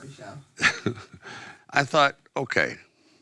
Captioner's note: Sylvester Laughing